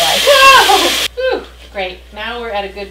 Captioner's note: pot sizzling